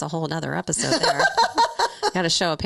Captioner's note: laughing